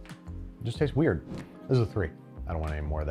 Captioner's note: air whooshes